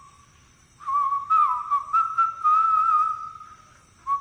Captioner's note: whistling